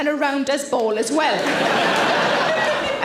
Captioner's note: audience laughing